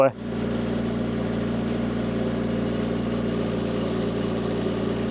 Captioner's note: engine rumbling